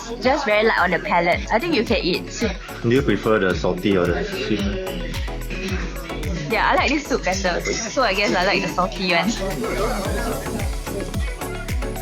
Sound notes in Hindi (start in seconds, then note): 10.5 चुटकी